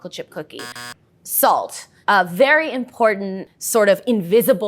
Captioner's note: buzzer sounds